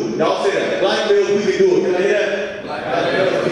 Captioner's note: audience speaking